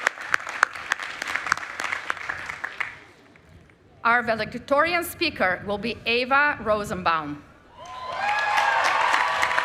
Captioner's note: applause